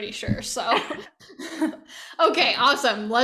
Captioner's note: laughing